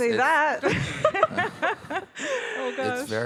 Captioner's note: all laughing